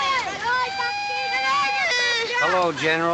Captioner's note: wailing Continues